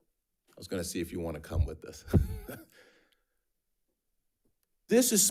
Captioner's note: laughs